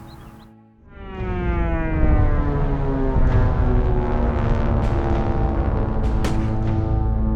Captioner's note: dramatic music; aircraft engine buzzing; gunshots banging